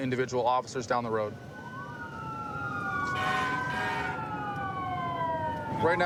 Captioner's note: emt sirens blaring